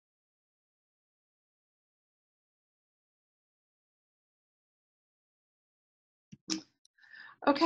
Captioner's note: pause